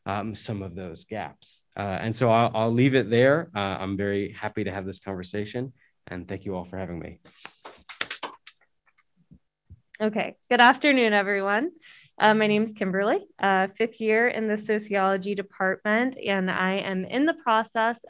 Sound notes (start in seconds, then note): 7.6 applause